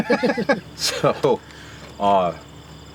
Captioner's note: both laugh